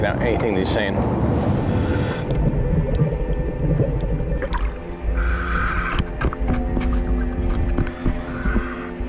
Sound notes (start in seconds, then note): 1.4 water bubbling; 1.4 nervous music